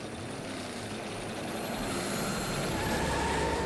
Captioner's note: engines revving; tires screeching